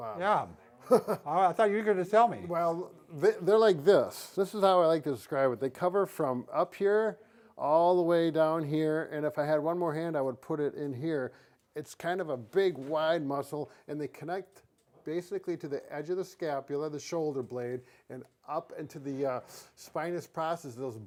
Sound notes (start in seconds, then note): 0.8 laughs